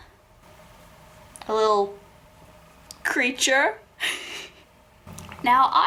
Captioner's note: laughs